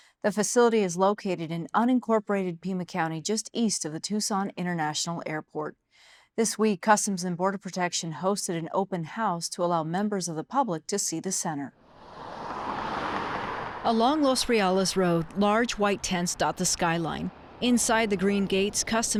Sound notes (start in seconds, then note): 11.9 car engine roaring